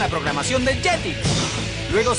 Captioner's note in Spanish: sonido de objeto cayéndose